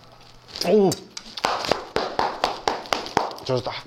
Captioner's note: his happy clap